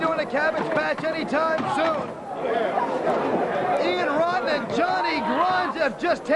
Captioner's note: crowd chatter